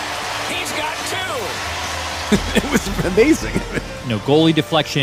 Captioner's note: laughs